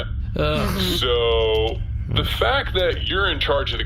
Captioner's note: exasperated